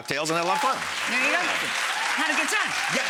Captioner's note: audience claps